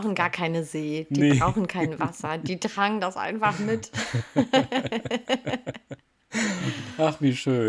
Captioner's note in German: gelächter